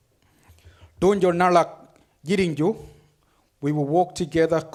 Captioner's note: speaks foreign language